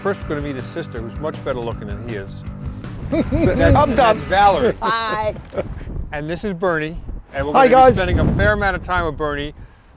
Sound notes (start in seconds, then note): 3.0 laughs